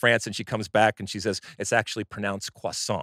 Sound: french accent

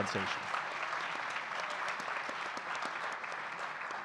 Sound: audience clapping

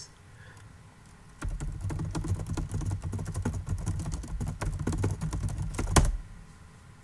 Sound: typing noises

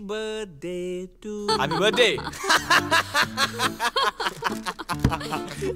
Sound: laughings

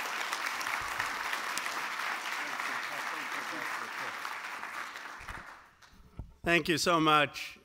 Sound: applause

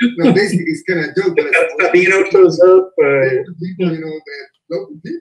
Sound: laughter and talking over one another

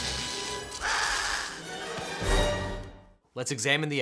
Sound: dramatic music; zapping; roars

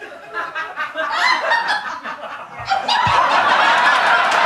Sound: audience laughing

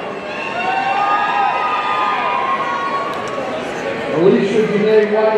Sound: audience cheering

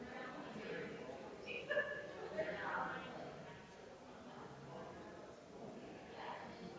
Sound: people chattering distantly continues

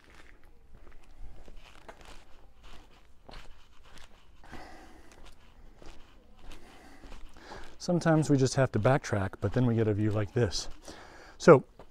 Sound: background chatter

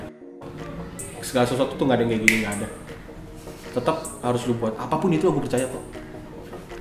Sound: snaps

